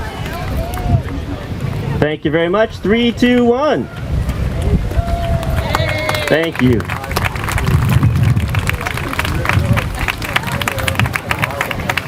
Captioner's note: applause